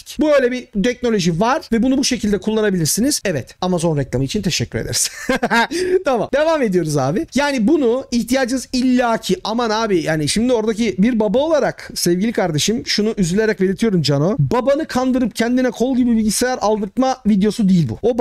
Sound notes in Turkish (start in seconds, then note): 4.9 Gülüşmeler